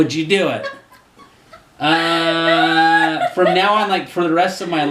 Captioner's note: laughter